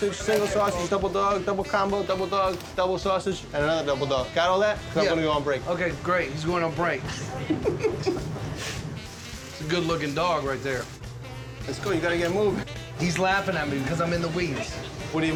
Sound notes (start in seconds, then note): 7.1 laughter